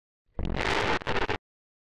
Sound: distorted noise

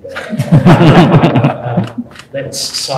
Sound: laughs

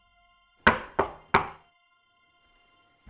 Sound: three door knocks

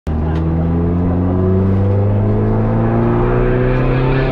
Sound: engine running

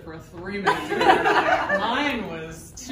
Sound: group laughing

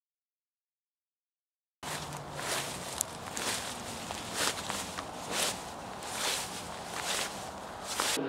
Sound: footsteps

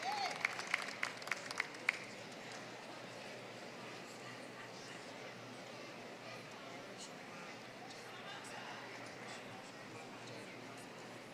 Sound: applause

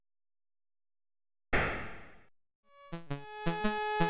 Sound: gun shot; country-style music

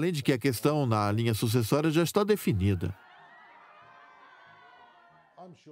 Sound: crowd laughing

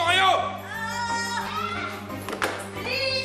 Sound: Candy and Pedrito scream

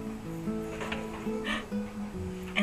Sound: gasp

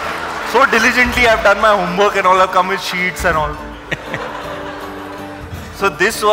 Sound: Sadhguru Laughs

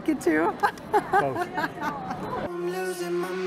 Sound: laughs

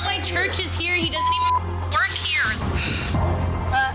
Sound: beep

